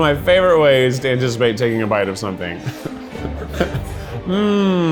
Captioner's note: chuckles